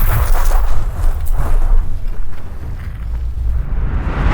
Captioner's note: crashing